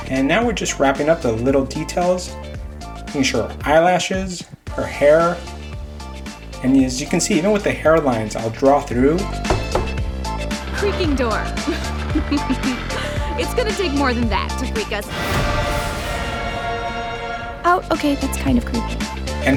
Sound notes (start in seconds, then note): 9.3 knocking; 11.5 laughing; 15.3 dramatic choir music